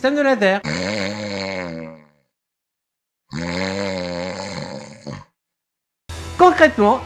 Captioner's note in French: Ronflement